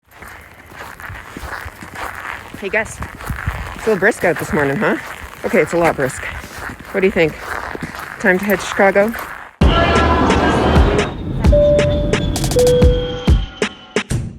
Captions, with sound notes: (footsteps crunching in snow) - Hey, Gus. It's a little brisk out this morning, huh? Okay, it's a lot brisk. What do you think? Time to head to Chicago? (upbeat music) (airplane dings)